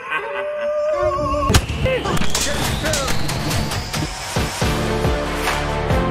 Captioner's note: laughter; sounds of shots